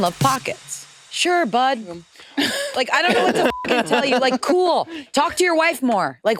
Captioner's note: beep